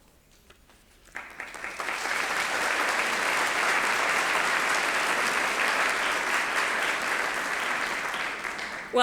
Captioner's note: applause